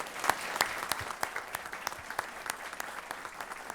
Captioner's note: applause